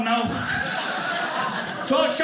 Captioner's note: audience laughing